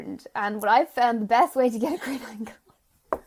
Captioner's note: laughing